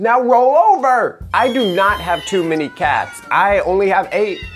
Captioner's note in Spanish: maullidos